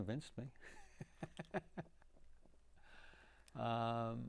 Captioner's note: laughing